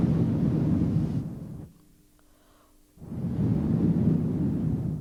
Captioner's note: shri mataji blows into the microphone